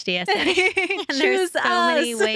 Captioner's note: laughing